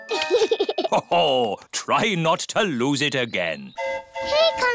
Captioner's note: giggles; train horn hooting